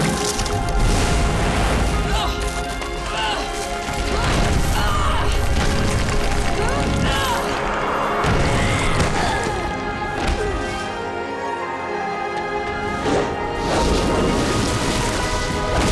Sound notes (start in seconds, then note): 1.6 grunting; 6.6 grunting; 9.0 groaning